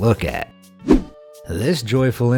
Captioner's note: air whooshing